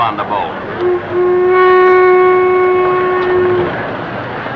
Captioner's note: ship horn